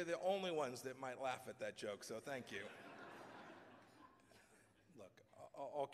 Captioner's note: laughter